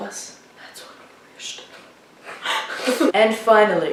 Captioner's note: whispering